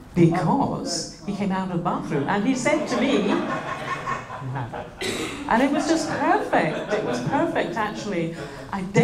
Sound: laughter

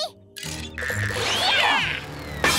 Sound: grunting; shattering

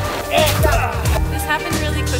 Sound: grunts

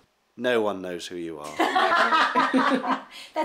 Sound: laughter

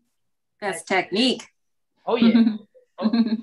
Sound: laughing

